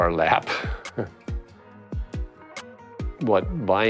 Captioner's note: chuckling